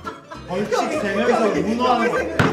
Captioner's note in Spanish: Riéndose mucho